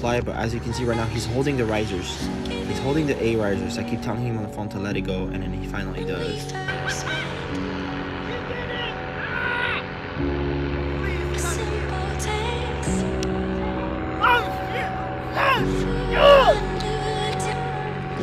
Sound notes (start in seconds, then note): 6.6 chuckles; 9.9 bright music